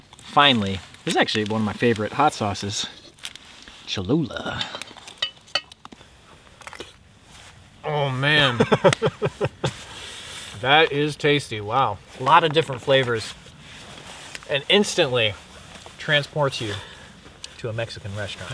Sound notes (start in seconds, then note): 8.2 laughs